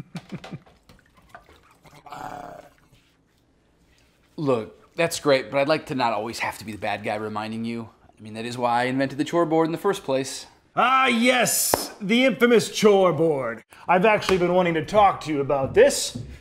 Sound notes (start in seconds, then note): 0.0 laughing; 0.9 gurgling